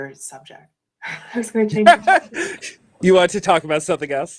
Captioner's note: laughing